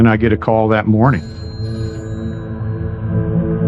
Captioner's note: phone ringing